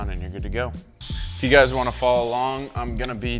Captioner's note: drill revving